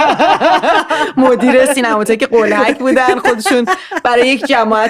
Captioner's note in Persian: خنده